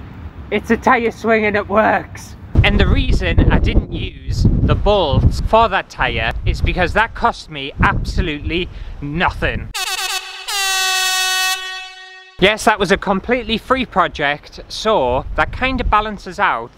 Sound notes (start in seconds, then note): 9.7 air Horn